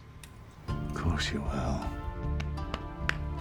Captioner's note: scottish accent